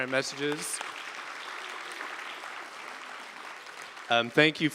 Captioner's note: applause